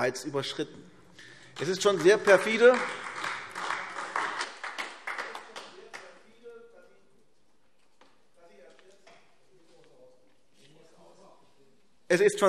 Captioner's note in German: Beifall AfD